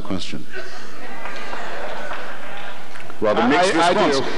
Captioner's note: audience shouting